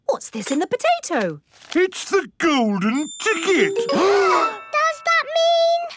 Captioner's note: gasps